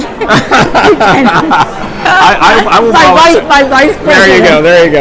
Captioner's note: laughing; laughs